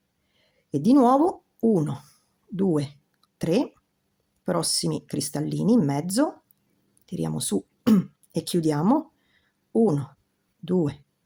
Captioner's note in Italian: schiarire la voce